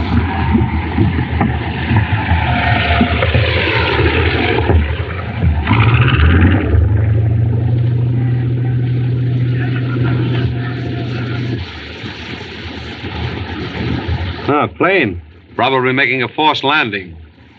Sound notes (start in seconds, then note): 9.8 airplane Approaching; 9.8 shouting